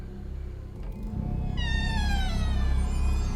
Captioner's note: creaking